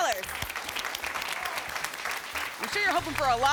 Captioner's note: applause